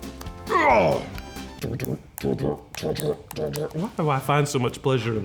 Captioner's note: grunting